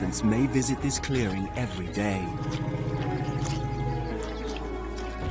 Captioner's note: elephant grumbling